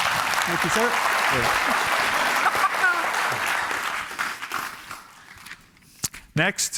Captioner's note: applause